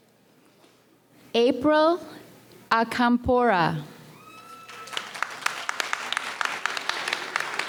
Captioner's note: audience applauds